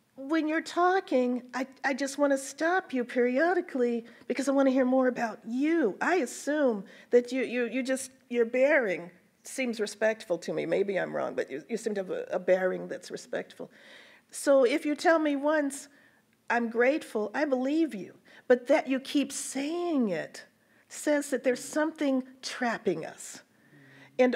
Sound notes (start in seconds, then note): none